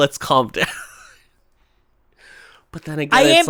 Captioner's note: laughs